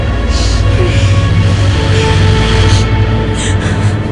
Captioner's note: woman crying